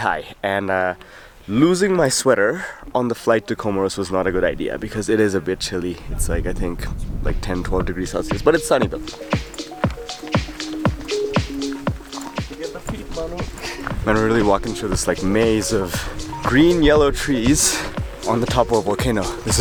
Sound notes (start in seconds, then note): 13.4 laughs